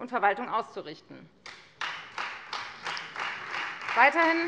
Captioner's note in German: Beifall Freie Demokraten